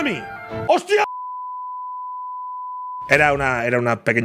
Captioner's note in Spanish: Pitido